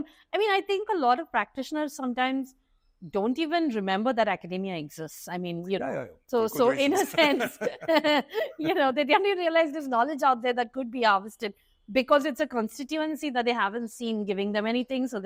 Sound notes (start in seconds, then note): 6.5 laughs